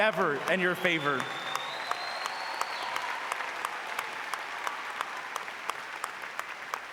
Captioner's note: audience applauding